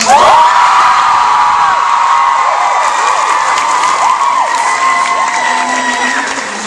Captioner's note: audience cheering